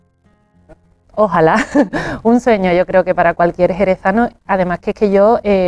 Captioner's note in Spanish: risas